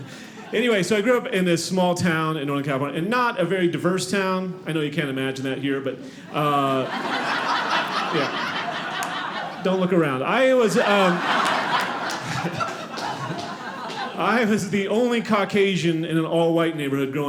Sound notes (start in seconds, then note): 5.8 audience laughing; 10.5 audience laughing